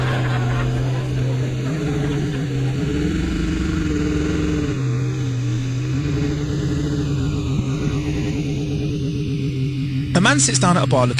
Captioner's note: laghter Applause; sound of outboard motor